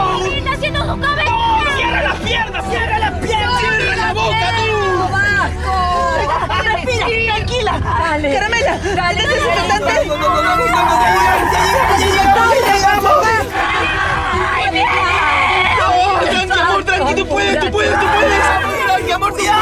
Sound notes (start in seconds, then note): 10.0 screams